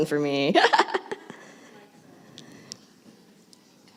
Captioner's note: laughs